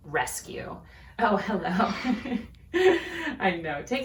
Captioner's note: chuckles